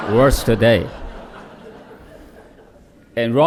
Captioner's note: laughter